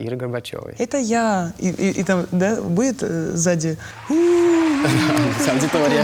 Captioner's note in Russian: звук аплодисментов